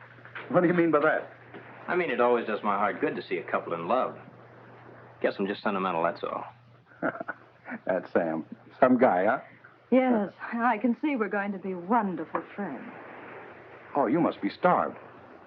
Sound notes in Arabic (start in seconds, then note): 6.9 هانك يضحك